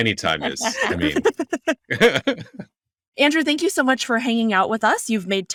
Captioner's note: laughing